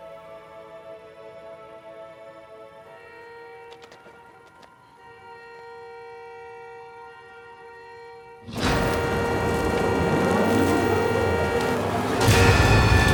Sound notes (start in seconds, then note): 3.3 car horn honking; 8.3 car horn honking continues